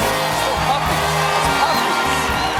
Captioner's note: cheers and applause